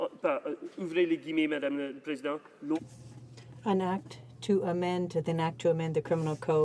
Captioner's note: speaking in French